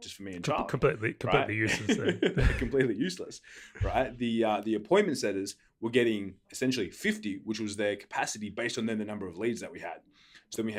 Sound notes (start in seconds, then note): 1.6 laughs